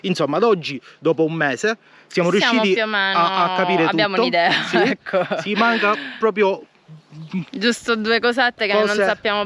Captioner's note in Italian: risate